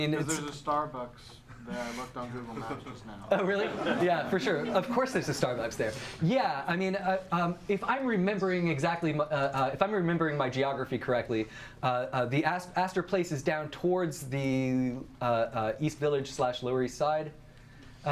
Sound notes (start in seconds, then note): 2.4 audience laughs